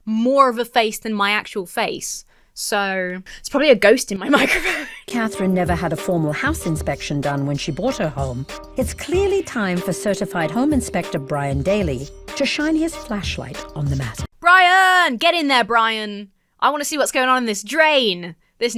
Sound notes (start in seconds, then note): 4.2 laughs